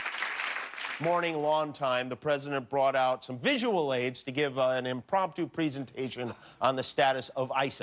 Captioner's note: cheers and applause